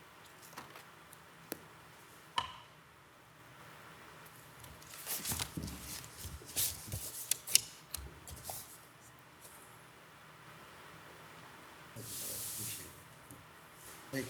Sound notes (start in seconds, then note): 4.6 papers rustling